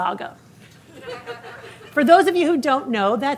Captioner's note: audience laughing